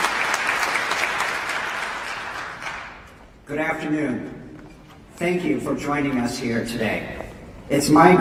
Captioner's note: applause